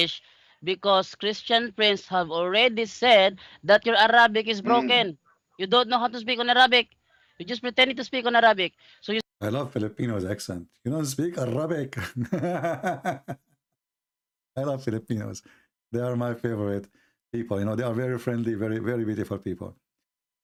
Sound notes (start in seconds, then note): 11.9 Ketawa